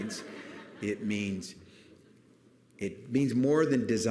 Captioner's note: laughter